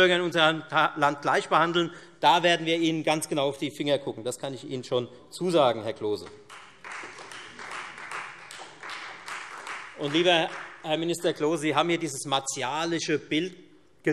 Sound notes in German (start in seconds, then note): 6.2 Beifall Freie Demokraten